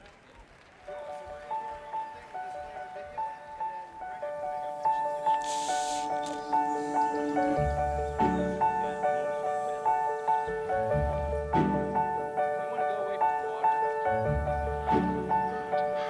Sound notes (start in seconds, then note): 0.2 audience clapping softly; 0.2 mellow piano music; 5.4 tape swishes softly; 6.5 mellow piano music swells; 8.9 person speaks away mic; 11.4 mellow piano music continues; 14.1 mellow piano music continues